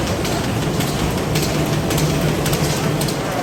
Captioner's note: machine banging in the background